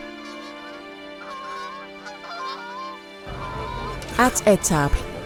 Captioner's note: sound of geese overhead